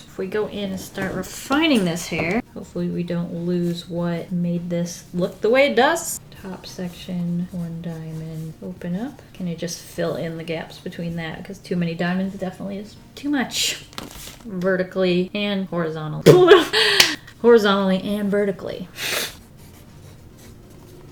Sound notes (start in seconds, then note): 16.3 laughs then claps